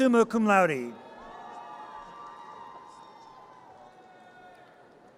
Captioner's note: audience cheers